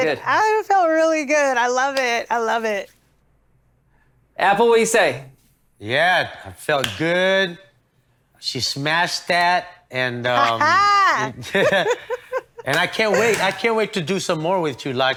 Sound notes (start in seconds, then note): 10.4 laughs; 11.3 chuckles